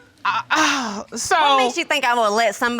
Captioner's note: sighs